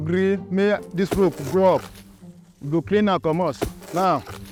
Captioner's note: ax thwacking